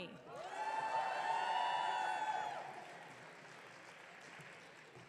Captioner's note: audience cheering